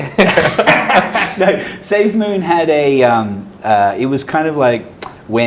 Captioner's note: laughing